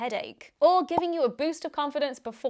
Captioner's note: popping